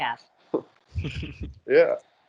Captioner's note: giggling